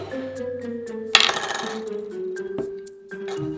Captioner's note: lid spinning on table